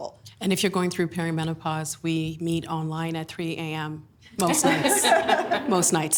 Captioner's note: laughing